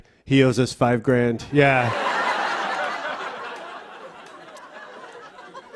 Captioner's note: laughter